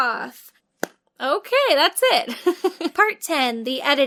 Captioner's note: laughs